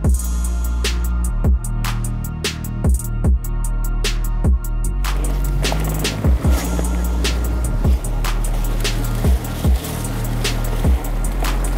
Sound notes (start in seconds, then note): 5.0 bike whirring